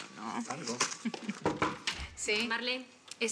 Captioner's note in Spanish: Toques en la puerta